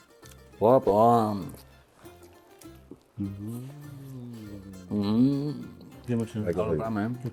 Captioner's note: sounds of pleasure